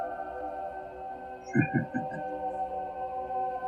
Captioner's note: chuckling